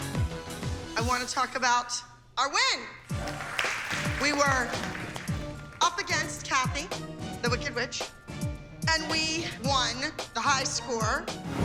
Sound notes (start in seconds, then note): 3.1 applause